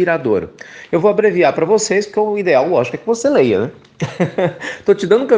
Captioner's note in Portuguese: risos